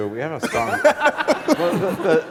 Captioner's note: laughter